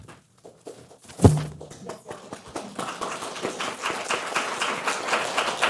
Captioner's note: audience clapping